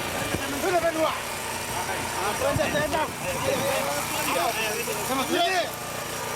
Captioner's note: man shouting in a foreign language